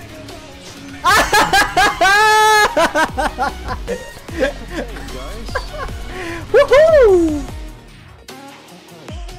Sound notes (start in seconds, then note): 1.0 laughs